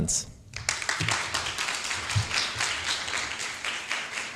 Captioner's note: applause